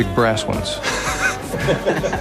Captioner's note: laughing